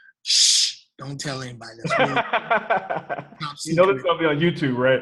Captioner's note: laughing